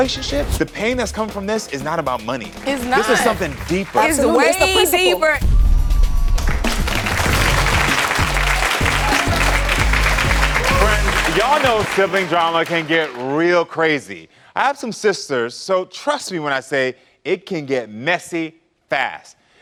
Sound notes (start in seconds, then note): 5.4 upbeat music; 6.4 audience applauding